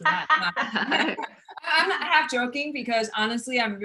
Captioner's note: all laugh